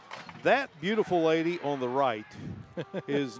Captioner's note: laughter